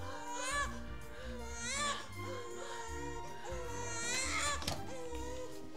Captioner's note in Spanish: UN REClÉN NAClDO LLORA